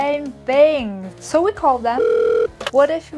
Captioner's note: phone ringing